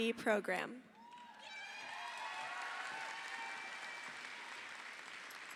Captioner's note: audience applauding